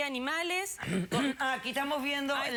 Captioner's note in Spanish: carraspea